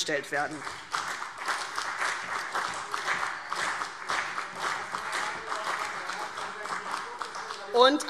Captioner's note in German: Beifall CDU und BÜNDNIS 90/DIE GRÜNEN